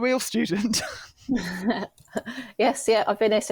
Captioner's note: laughs